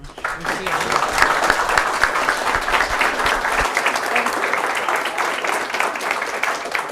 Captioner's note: applause